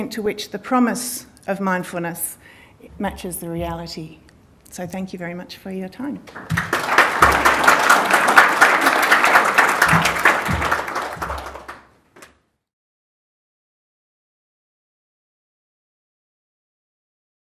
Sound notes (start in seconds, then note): 7.9 audience applauding